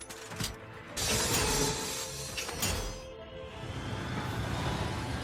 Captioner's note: brakes squeal and points clang